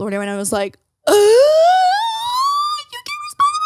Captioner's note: gasping